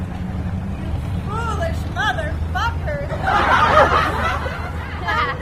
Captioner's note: laughter